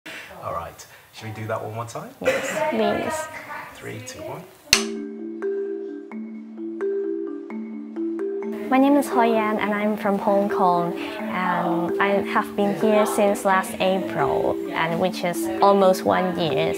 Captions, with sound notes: All right. Shall we do that one time? Yes Please. Three, two, one (Clap) My name is Hoi Yan and I'm from Hong Kong, and I have been here since last April, which is almost one year.